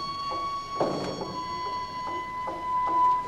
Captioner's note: top clunks